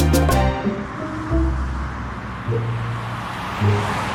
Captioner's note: vehicles passing on avenue